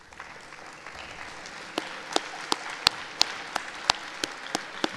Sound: audience applauding

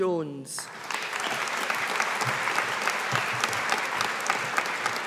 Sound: audience applauding

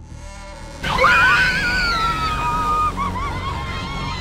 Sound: screaming

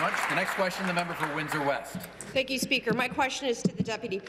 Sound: applause

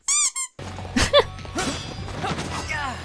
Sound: chuckle

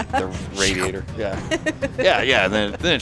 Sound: laughing

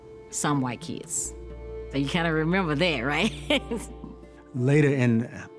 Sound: laughs

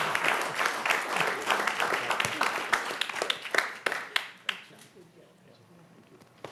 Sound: applause

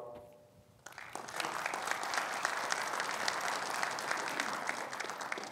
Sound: audience applauding

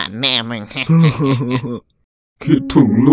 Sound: cry

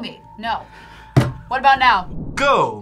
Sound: slams table

